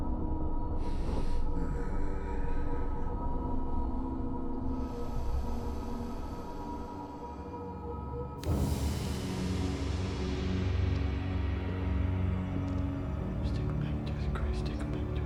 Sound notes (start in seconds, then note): 0.8 ghoul breathes heavily; 8.8 eerie music